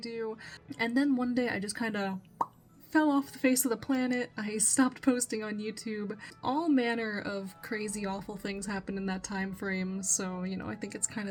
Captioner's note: pop